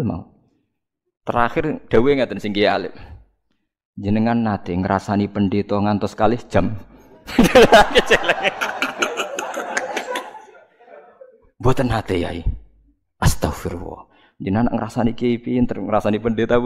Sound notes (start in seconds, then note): 7.1 laughs